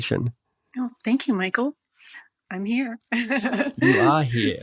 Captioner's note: laughs